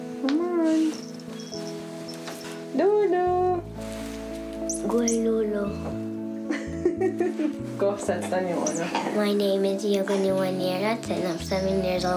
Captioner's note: speaking native language